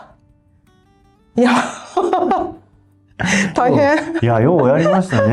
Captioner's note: laughs